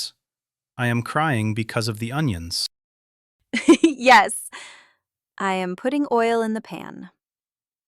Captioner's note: laughs